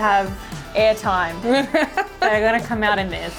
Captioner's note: laughing